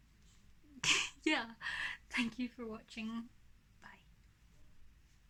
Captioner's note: giggles